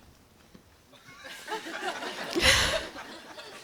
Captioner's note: laughter